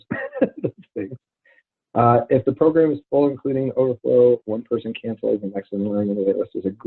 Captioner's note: laughs